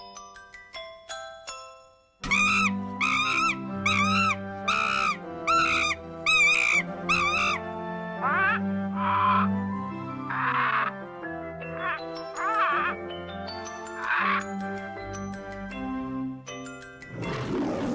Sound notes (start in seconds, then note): 2.2 chimpanzee screeching; 8.8 cockatoo squawks; 17.1 lion roaring and growling